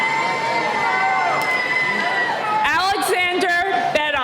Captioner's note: cheering